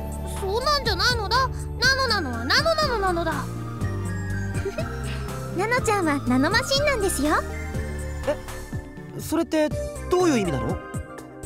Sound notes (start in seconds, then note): 4.6 giggle